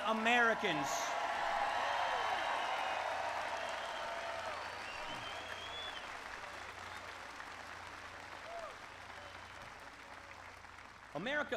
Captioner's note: applause